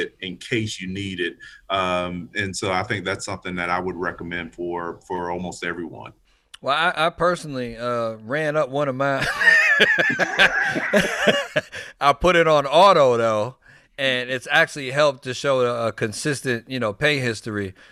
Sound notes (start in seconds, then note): 9.2 all laughing